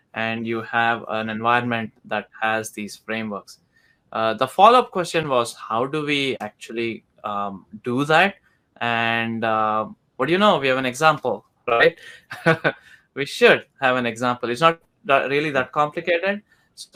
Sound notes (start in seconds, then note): 11.8 chuckles